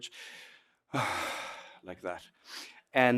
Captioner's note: sighs